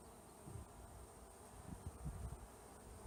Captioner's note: wind noises